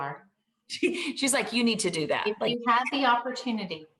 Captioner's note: chuckles